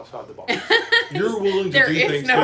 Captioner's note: laughs